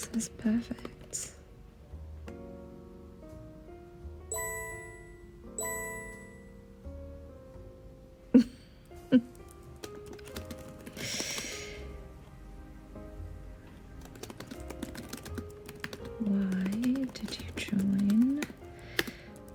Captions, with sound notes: - It says perfect. (Diana laughing) Why did you join